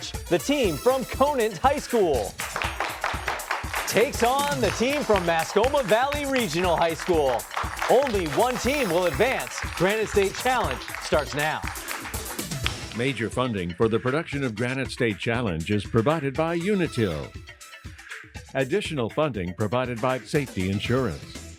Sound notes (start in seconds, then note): 2.3 applause